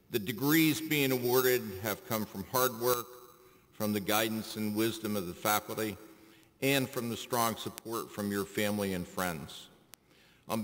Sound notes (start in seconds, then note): none